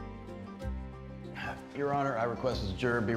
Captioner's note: sighs